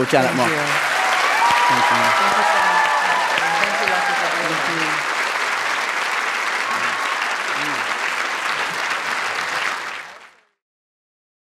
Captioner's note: applause and Cheering